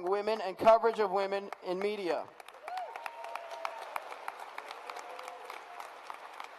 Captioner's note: applause